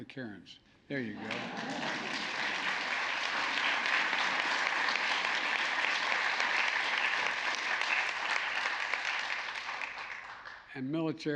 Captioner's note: applause